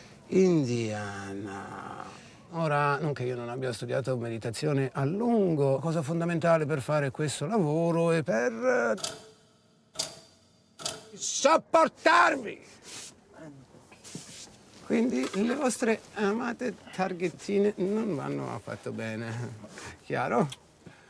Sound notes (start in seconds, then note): 9.3 clicking sound